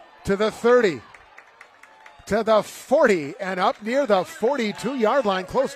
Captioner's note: applause